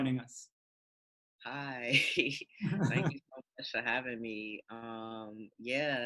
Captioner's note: laughing